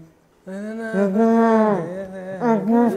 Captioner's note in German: Summen